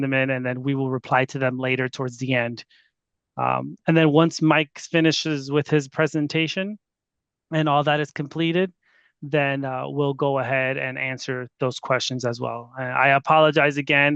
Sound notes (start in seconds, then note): none